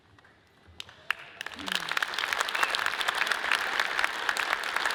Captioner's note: audience applauds